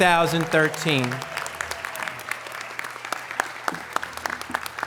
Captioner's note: audience applause